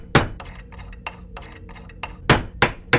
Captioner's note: hammering; screwdriver sounds; hammering